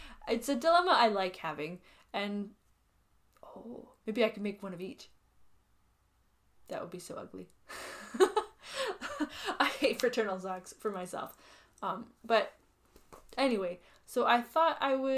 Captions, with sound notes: It's a dilemma I like having and oh, maybe I could make one of each. That would be so ugly. [laughs] I hate fraternal socks for myself. Um, but anyway, so I thought I would..